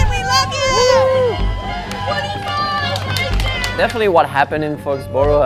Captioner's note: crowd cheers and yells